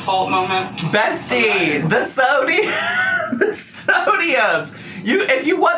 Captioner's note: laughs